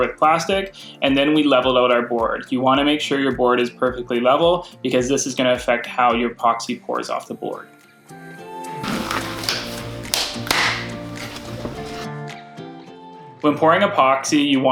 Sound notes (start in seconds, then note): 8.8 cheerful music; 8.8 gloves snapping